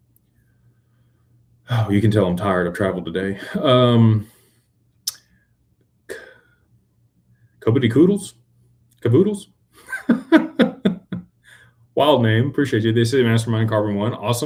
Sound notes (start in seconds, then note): 6.1 clears throat; 9.8 laughter